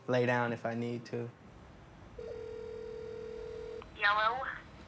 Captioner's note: line ringing